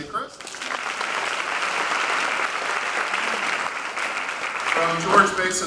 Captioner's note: applause